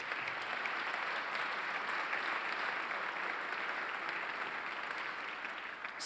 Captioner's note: applause